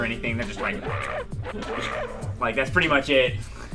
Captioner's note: Donkey Kong sfx